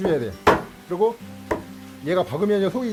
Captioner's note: hammering sound